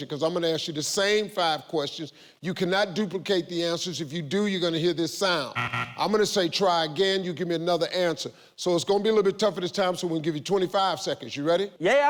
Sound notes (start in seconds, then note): 5.5 buzzer